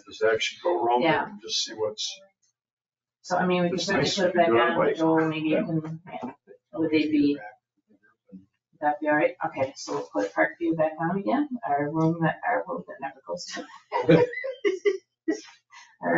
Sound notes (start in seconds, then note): 7.3 speaks distantly; 13.6 people chuckle